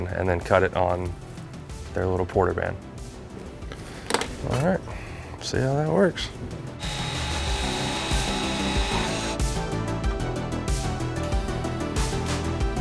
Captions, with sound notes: and then cut it on their little porter band. All right, let's see how that works. (upbeat music) (tool whirring)